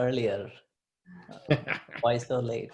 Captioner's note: laughs